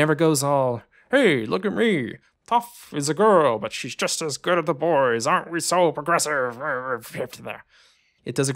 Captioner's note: dopey voice